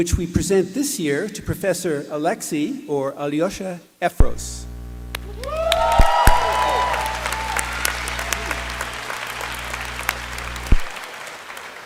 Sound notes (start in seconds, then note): 5.4 applause